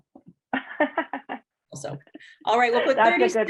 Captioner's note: laughing